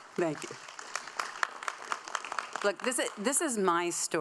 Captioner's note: audience applauding